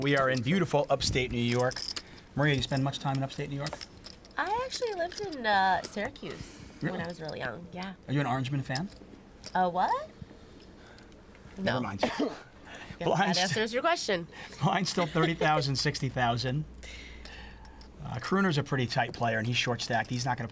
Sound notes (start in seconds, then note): 12.0 both laugh; 14.9 both laughing